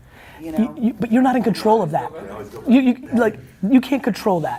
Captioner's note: voices chattering